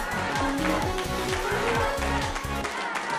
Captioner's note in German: Klatschen